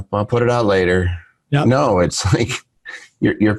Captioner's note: giggles